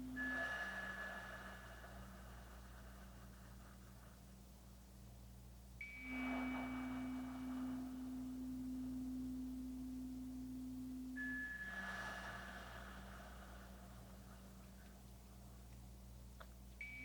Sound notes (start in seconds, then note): 0.0 slow breathing continues; 0.2 chimes ringing continues; 10.3 slow breathing continues; 10.8 chimes ringing continues